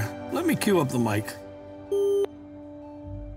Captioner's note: CB microphone beep